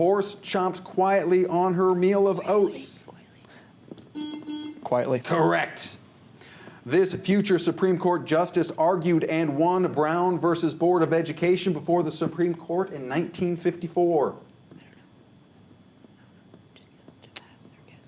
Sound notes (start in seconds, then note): 4.0 whispers; 4.1 buzzer; 15.3 whispers